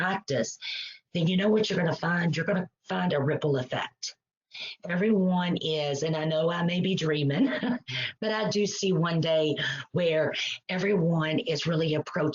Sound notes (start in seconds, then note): 7.4 chuckles